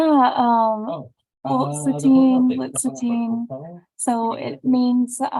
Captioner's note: speaking in foreign language